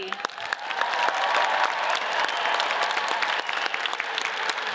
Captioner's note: audience cheers and applauds